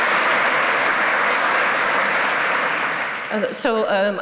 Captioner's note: applause